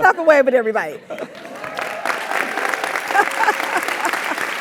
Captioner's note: applause; laugh